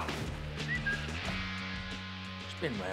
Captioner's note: whistles